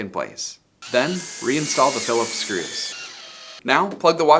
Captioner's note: screwdriver whirs